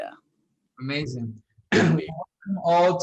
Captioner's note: clears throat